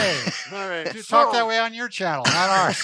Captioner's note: laughs